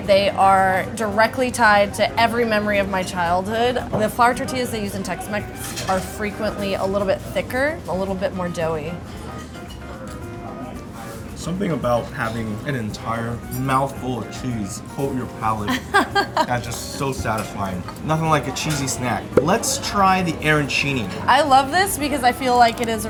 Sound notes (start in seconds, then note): 15.9 laughs